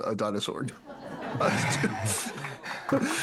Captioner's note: audience Laughing